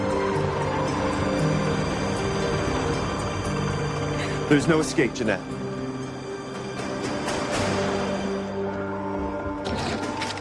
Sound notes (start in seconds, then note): 1.1 vehicles approach